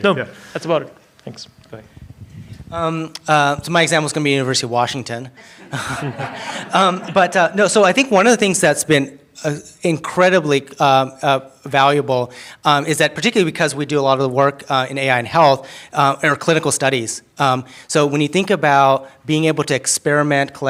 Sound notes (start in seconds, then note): 5.4 laughter